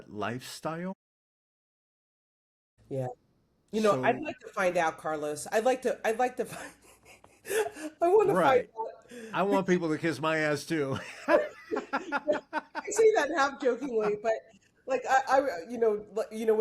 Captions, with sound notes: Yeah, you know, I'd like to find out, Carlos. I'd like to, I'd like to find-- (Laughs) I want to find-- Right. I want people to kiss my ass too. (Laughs) I say that half-kilkingly, but like, you know when the lotto got crazy,